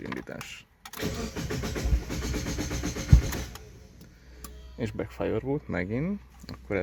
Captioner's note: backfires